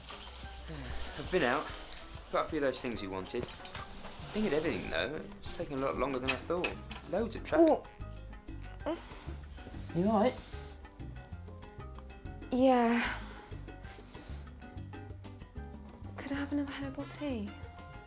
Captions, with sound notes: - I've been out. Bought a few of those things you wanted. Didn't get everything, though. It's taken a lot longer than I thought. Loads of traffic. (grunting) Are you alright? - Yeah. Could I have another herbal tea?